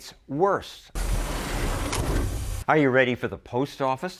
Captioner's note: mail truck sounds